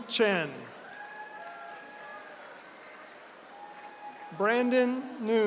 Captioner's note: attendees cheering